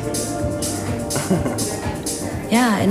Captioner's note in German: kichert